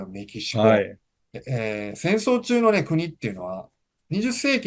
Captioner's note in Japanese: 咳払い